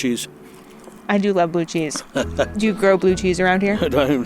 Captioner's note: laughter